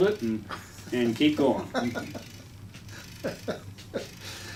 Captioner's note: laughs